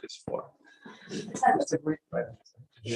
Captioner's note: laughter